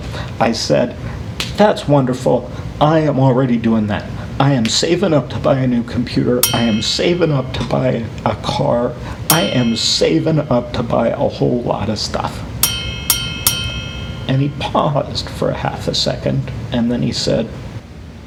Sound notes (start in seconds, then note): 6.4 bell dings; 9.3 ding; 12.6 ding, ding, ding